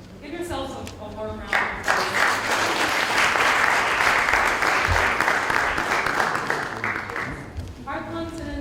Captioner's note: applause